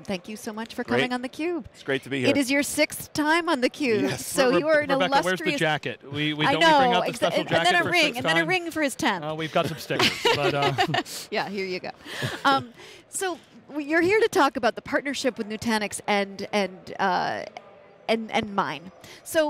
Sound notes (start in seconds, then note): 9.9 laughing